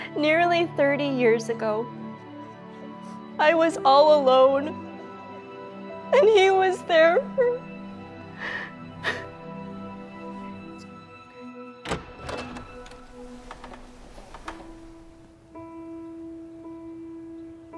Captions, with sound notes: Nearly 30 years ago, I was all alone, and he was there for me. (cries) - It's okay. (doorknob turning) (melancholy music)